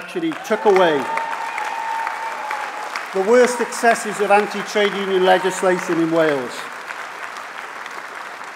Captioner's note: applause